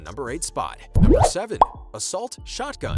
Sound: bubble popping; whooshing

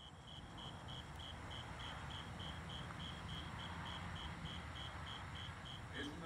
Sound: grillos chirriando

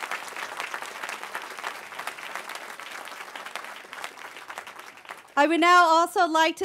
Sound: cheering

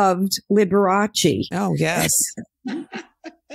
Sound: laughs

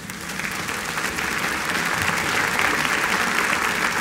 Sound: applause

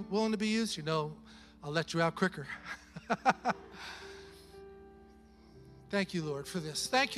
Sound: chuckles

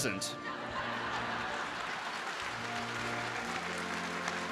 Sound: laughter and applause

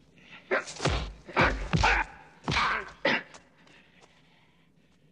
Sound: hitting

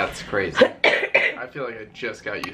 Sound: coughing

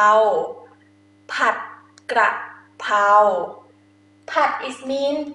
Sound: talking in foreign language

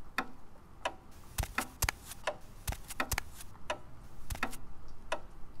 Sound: footsteps

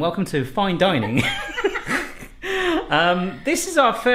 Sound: laughing

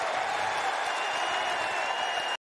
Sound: cheers and applause

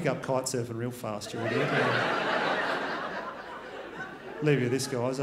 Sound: crowd laughs

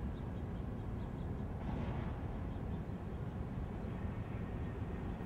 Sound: none

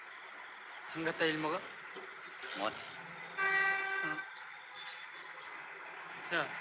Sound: in front of a building, indistinctive buzz of conversation

